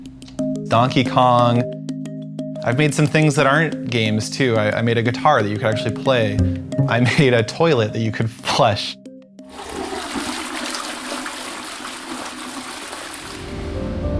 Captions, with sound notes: Donkey Kong, I've made some things that aren't games too - I made a guitar that you can actually play, I made a toilet that you could flush [FLUSHING SOUND]